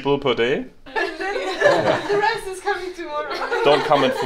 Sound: chuckles

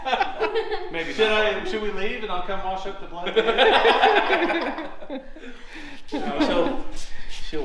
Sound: laughing

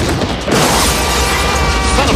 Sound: horn blares

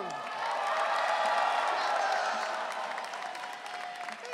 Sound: audience cheering

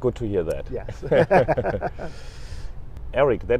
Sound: laughing

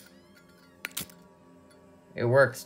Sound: lighter strikes

